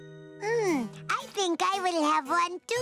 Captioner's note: sighing